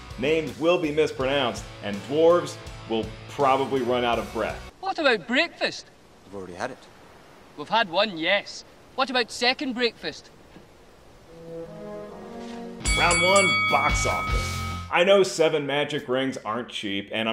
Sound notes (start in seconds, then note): 11.2 soft music; 12.7 bell ringing